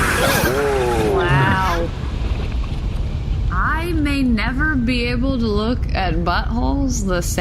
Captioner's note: nervous; Kor screams as he disappears into the Space